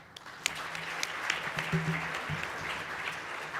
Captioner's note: clapping